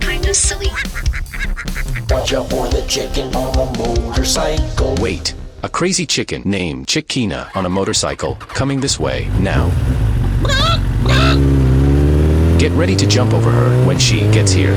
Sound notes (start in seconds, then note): 0.0 robot sings; 10.4 chicken sounds; 10.7 motorcycle accelerates, coming closer